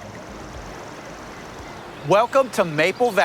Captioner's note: birds chirping